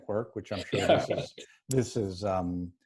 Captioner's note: laughs